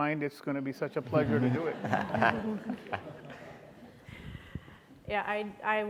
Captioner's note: audience laughing